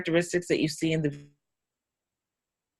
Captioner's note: audio drops out